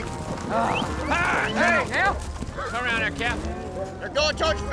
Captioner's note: whistling, prompting